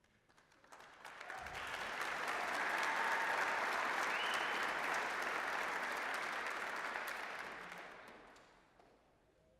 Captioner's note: applause